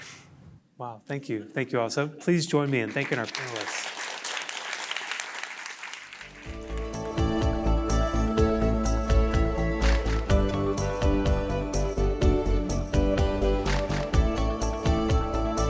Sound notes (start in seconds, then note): 2.6 applause